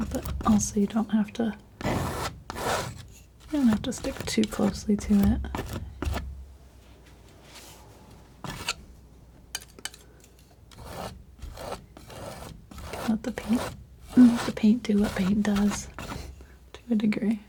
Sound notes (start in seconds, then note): 8.4 scratching